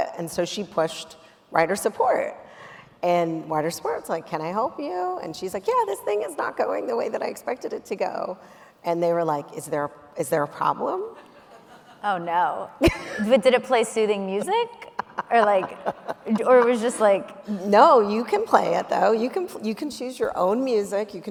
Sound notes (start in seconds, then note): 11.1 audience members laughing; 14.3 laughing